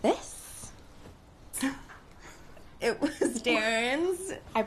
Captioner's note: gasping